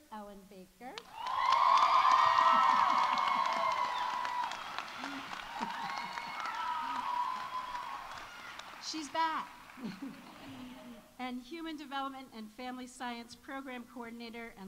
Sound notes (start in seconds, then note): 1.0 audience applauding; 1.0 audience cheering